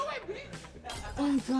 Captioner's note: glass smashing